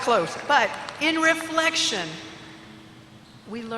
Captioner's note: applause